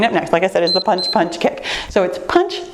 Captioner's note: timer beeps